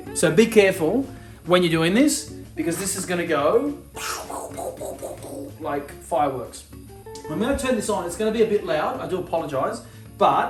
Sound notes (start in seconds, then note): 4.0 making popping sound